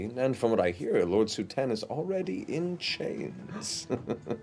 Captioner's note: chuckles